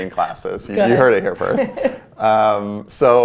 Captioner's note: laughs